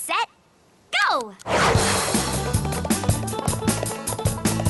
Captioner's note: clock ticking